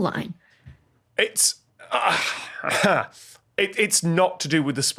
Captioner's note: sigh